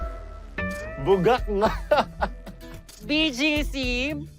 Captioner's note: laughs